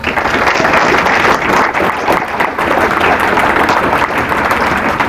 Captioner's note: applause